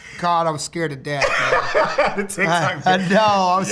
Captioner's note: laughter